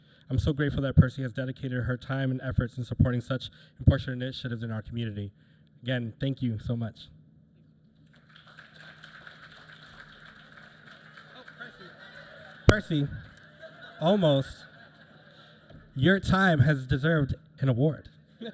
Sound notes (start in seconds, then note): 8.0 applause